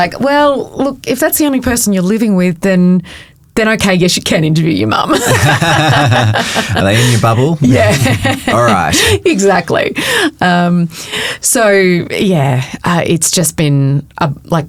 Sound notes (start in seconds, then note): 5.1 both chuckling; 8.3 chuckling